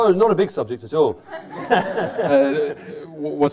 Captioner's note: laughter